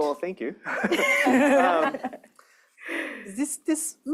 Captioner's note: laughter